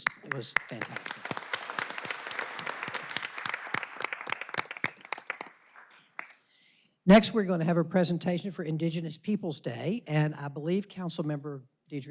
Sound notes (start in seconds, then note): 6.1 applause